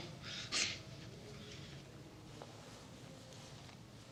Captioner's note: chuckles